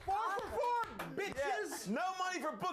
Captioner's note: audience cheering